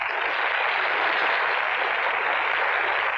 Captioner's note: applauding